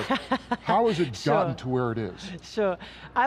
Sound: laughs

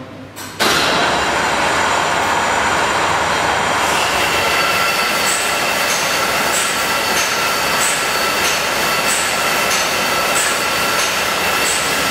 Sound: loud sound of clock working

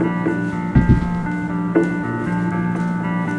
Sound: footsteps

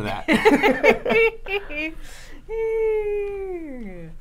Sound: both laughing

